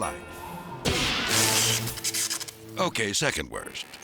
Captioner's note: electricity buzzes